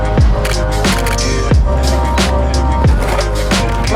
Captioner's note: camera shutter clicks